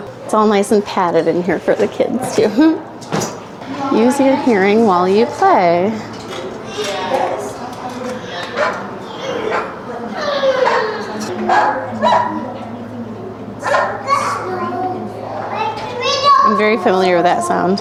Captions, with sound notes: It's all nice and padded in here for the kids, too. Use your hearing while you play [machine emulates dog barking] I'm very familiar with that sound